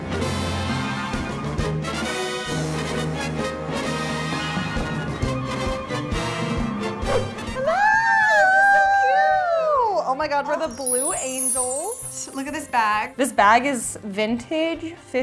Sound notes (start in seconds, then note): 0.0 upbeat jazz music; 7.5 screaming